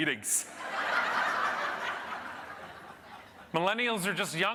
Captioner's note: audience laughing